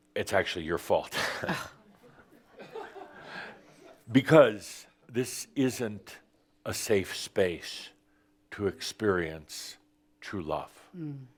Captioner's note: some chuckles